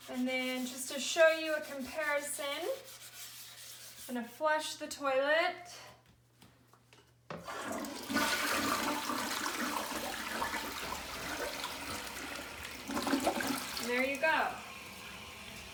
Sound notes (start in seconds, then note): 7.6 water gurgling